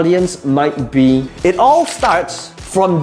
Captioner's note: marker squeaking; paper rustling